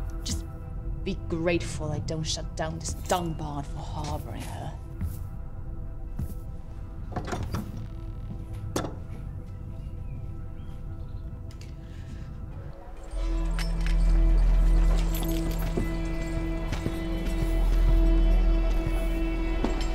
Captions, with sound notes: - Just be grateful I don't shut down this dung-barn for harbouring her. (door closes) (tense music)